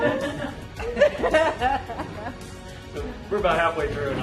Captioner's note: laughter